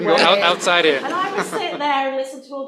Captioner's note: laughter